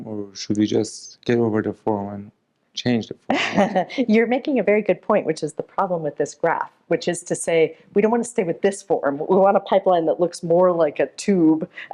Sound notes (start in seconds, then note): 3.3 laughs